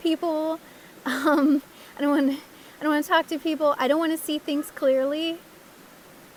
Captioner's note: laugh